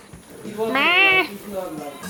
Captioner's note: imitating goats